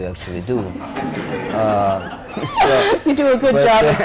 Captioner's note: laughter